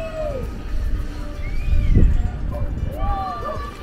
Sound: cheering in the background

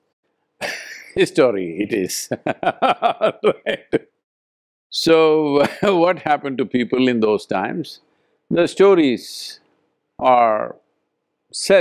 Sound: laughs

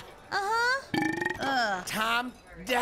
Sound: burps

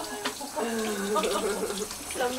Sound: laughing

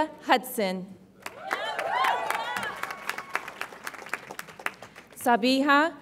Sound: audience applauds and cheers

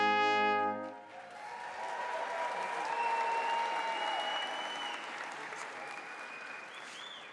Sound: crowd cheering; crowd applauding

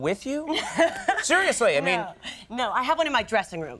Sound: Molly laughing

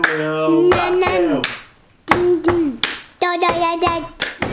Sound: babbling

